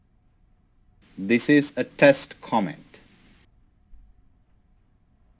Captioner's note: recorded voice